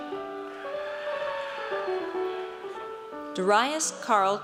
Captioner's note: audience cheers